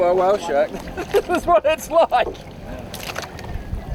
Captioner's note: laughs